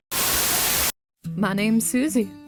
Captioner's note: Static